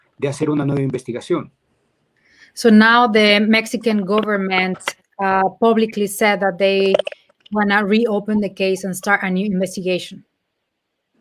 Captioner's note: speaking in Spanish